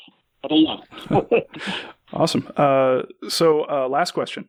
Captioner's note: laughs